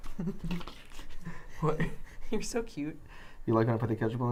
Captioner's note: giggles